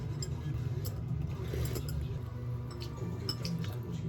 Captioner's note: the sound of drinking broth